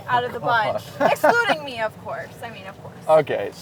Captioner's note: laughs